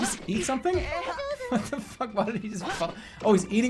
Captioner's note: chuckling